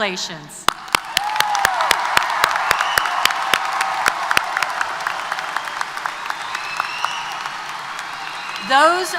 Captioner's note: applause & Cheers